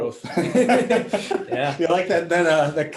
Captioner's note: all laughing